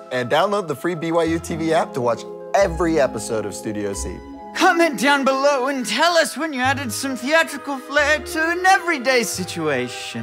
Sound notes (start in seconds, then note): 4.6 in Key Maker voice